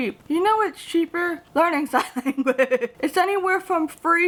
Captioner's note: chuckles